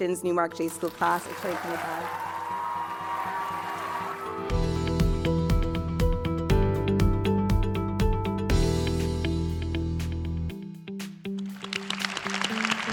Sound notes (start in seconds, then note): 3.3 cheers and applause